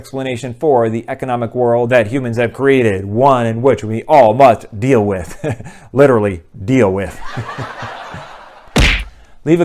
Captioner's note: laughter